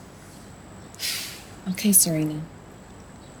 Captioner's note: deeply exhales